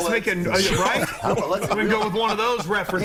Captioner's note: laughter